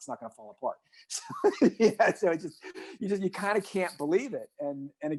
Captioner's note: laughs